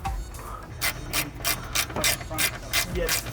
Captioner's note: ratchet clicking